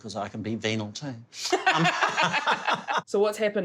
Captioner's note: laughs